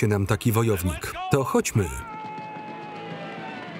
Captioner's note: yelling